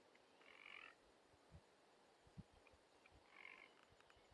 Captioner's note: frogs croaking